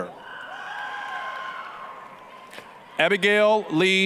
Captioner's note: applause, cheering